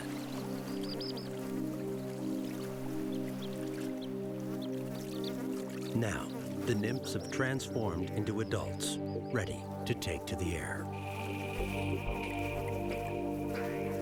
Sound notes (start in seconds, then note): 2.4 flies buzzing